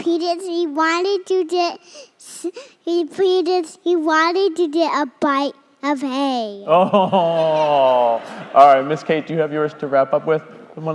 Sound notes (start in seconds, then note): 6.8 crowd laughing